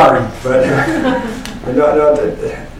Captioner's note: laughter